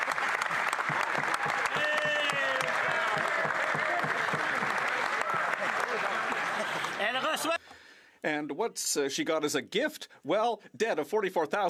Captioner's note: some Applause